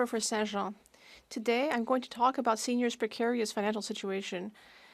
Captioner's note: speaking French